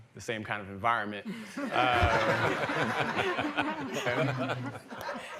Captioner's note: laughter